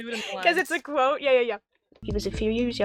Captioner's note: laughs